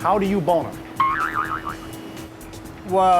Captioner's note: spring boings